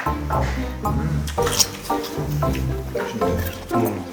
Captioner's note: Crunch